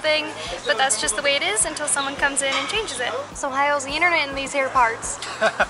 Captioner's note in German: In einem südlichen Akzent; Gelächter